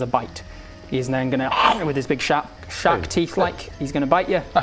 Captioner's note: nom